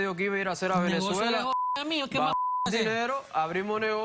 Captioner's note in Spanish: Bip